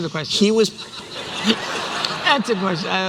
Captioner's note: laughter